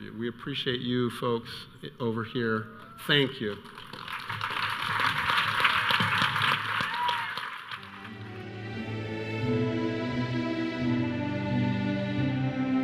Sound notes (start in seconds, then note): 4.1 audience cheering